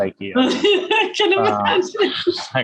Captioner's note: laughs